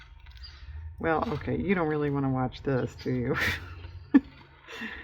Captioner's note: laughs